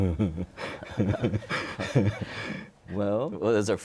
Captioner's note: chuckles